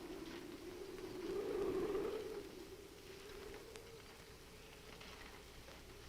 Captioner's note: muffled wind howls